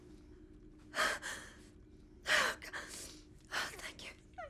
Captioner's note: crying